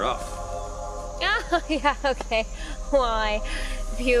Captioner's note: fake laughs